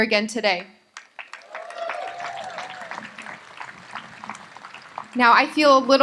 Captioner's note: audience applauds